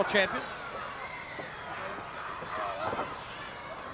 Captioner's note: crowd yelling